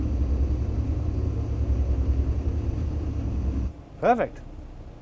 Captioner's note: engine roaring